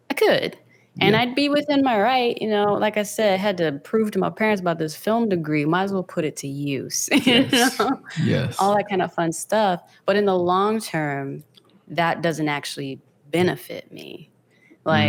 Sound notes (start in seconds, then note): 7.1 laughs